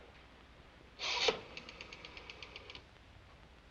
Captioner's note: dials phone